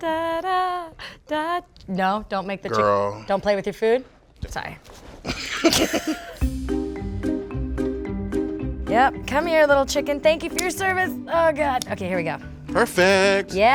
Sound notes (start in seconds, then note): 5.3 laughing; 7.1 playful music